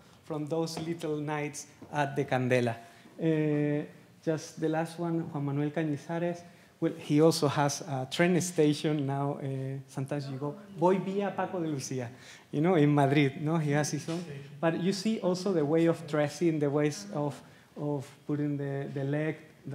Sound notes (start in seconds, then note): 11.0 speaking Spanish